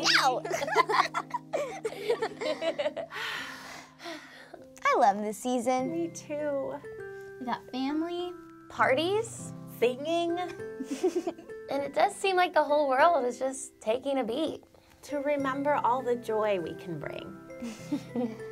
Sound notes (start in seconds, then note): 0.0 laughs; 3.1 sighs